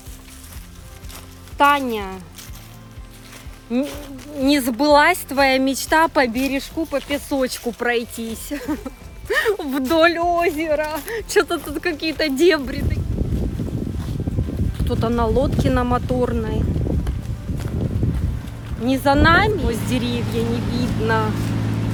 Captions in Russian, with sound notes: Таня! Не сбылась твоя мечта по бережку по песочку пройтись! Вдоль озера... Что-то тут какие-то дебри такие... (смех) Кто-то на лодке на моторной... Не за нами? Сквозь деревья не видно!